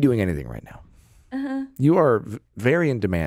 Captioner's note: giggles